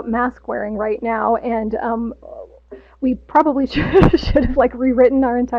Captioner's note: laughs